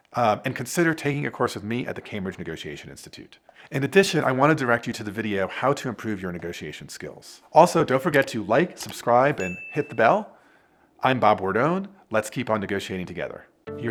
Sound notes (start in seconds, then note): 9.4 bell ringing